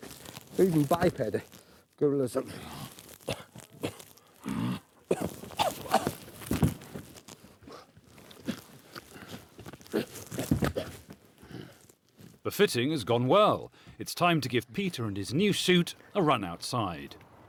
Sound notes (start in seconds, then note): 2.5 gorilla noises